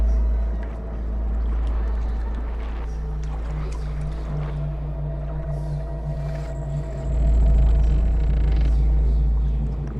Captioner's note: water Lapping; ships Creaking; water Lapping